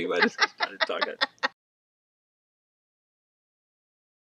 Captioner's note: both laughing